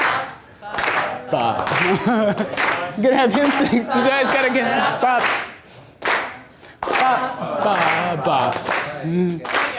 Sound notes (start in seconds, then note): 1.4 laughs; 6.0 voiceover